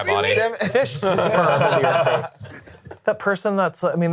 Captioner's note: all laughing